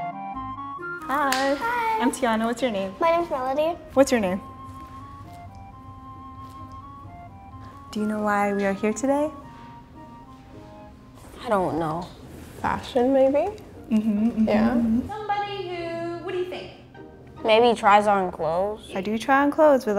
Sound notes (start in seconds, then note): 1.2 clapping